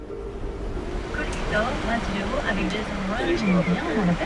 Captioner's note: indistinct chattering